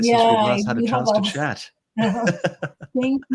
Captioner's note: chuckles